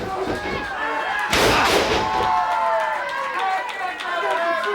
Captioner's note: body thuds